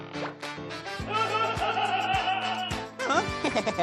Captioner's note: laughing; faking laughter